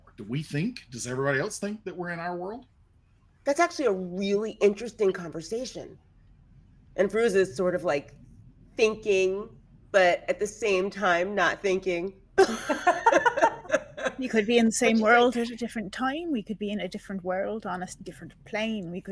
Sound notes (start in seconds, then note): 12.4 people laughing